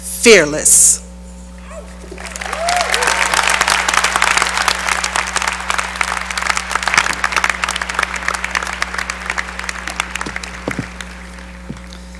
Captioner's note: cheering and applause